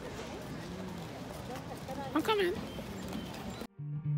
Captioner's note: mockingly